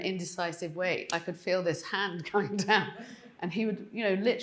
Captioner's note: laughing